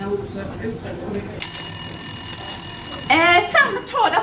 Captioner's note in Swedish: ringsignal